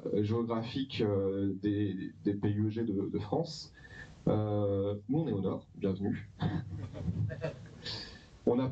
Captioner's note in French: rires